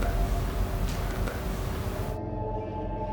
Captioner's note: tense music; voice whispering; eerie music